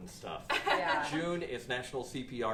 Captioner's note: laughter